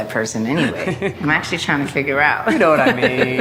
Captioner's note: laughs